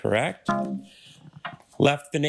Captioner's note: failure chime